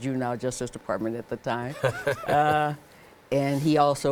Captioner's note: laughing